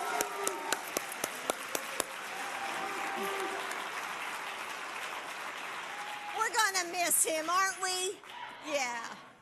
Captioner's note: applause